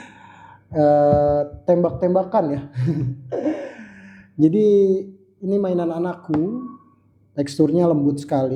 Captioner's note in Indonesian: tertawa